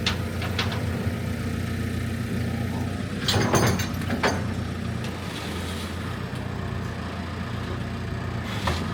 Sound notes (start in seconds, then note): 3.2 parts clanking